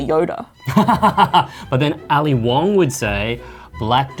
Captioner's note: laughs